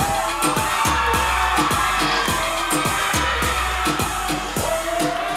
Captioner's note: audience cheering